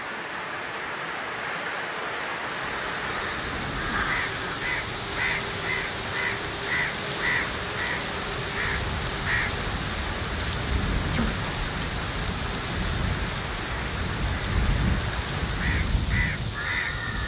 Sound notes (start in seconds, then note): 11.7 whispering; 13.7 ambient nature sounds